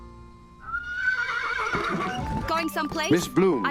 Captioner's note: horse neighs